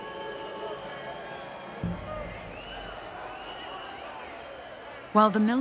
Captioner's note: crowd murmuring in background